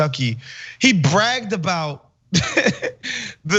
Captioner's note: laugh